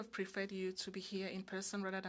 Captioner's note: speaking French